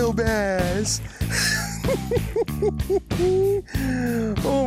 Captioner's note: laughs